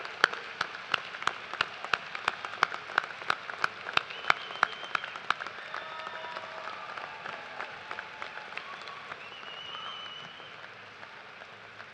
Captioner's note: applause; cheers and applause